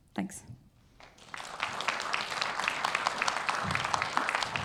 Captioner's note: audience clapping